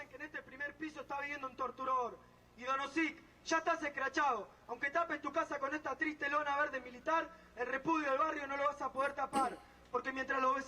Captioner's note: foreign language